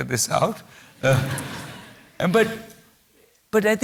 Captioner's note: laughter